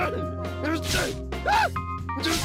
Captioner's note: shouts